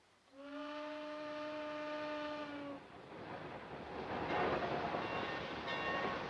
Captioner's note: train hooting; wheels clacking; train clanking